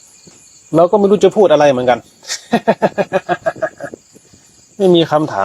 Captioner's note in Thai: เสียงหัวเราะ